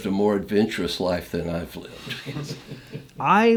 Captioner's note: laughs